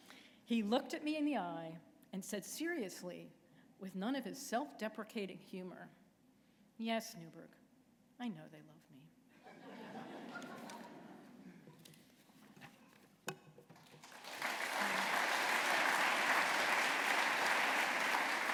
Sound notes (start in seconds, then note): 9.4 laughter; 13.8 applause